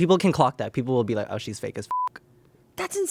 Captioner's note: beep